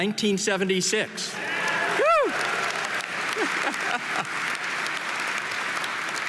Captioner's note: audience applauding and cheering